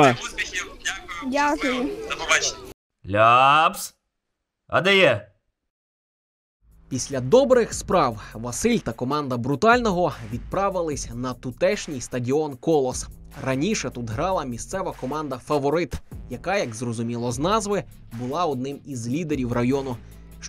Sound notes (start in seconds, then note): 6.8 voiceover